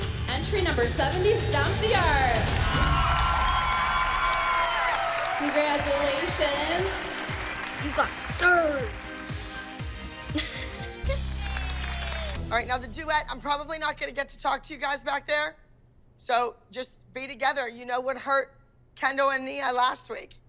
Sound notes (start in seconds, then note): 1.8 applause, cheering; 10.3 laughs